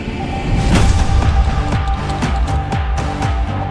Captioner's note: clap